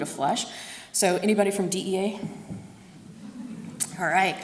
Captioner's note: audience laughs